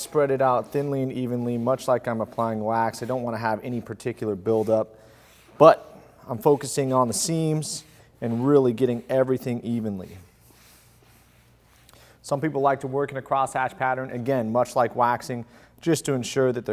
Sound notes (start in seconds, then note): 11.4 sponge swipes